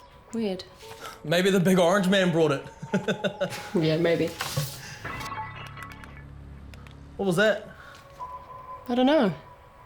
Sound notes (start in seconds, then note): 2.7 laughs